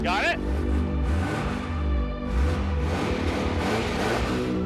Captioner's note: engine revving